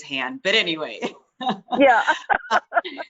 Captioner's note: laughter